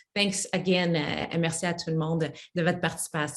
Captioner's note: speaks French